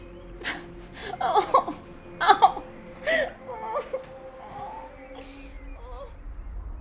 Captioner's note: sobbing; crying